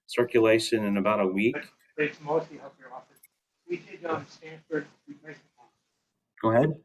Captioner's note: background chatter